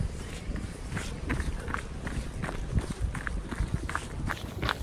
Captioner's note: gravel crunching